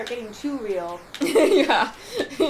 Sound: laughter; laughing

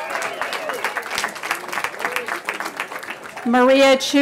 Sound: cheering

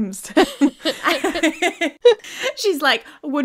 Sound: both laughing

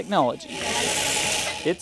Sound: bees racing

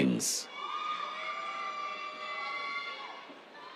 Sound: cheers

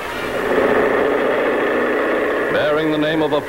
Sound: plane roaring

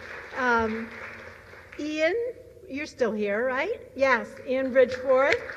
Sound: applause

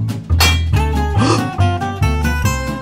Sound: gasps

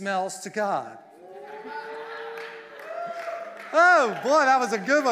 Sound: congregation cheering

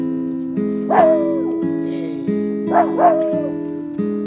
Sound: soothing music; Cheeki howling

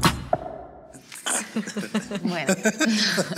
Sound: laughter

